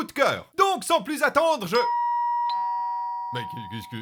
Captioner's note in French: ding dong